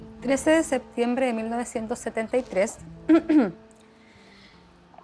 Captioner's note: speaks in foreign language